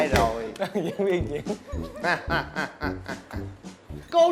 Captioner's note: chuckling